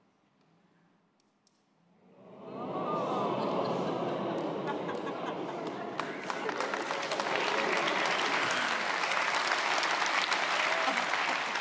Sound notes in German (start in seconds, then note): 2.2 Raunen; 6.1 Applaus